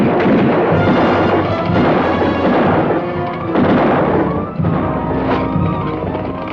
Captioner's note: dramatic orchestral music; guns fire